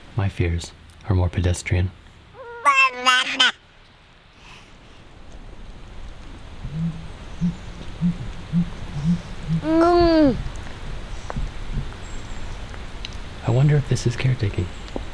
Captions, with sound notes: My fears are more pedestrian. [speaking gibberish] [bird hooting] [rain dripping] I wonder if this is care taking.